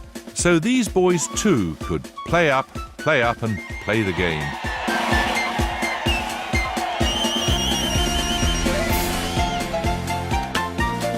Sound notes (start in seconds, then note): 3.8 cheering